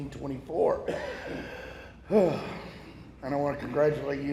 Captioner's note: breathes deeply